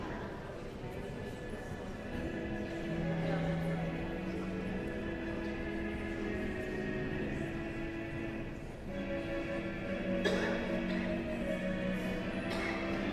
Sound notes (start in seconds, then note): 0.2 guest chattering; 3.9 guest continue chattering; 3.9 solemn music